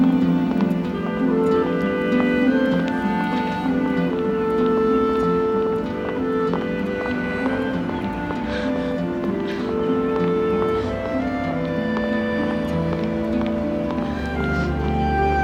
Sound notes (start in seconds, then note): 9.5 marcia crying